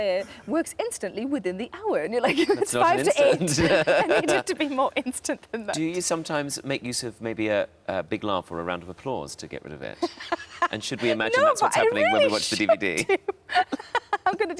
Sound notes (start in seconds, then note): 3.0 laughs; 10.0 laughs